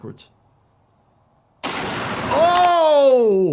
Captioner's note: gunshot cracks